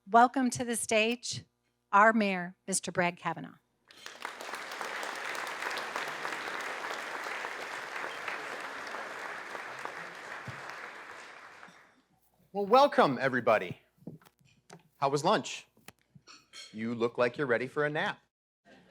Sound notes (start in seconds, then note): 3.9 audience applauding